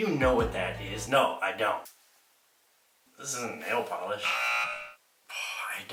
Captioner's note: buzzer